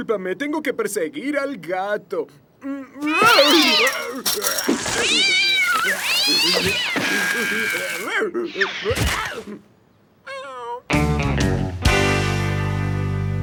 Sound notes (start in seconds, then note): 3.3 barking; 5.7 cat yowling; 8.2 Goon whimpering